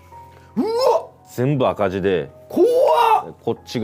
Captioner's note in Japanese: 叫び声